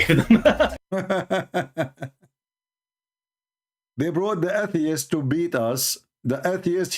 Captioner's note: Ketawa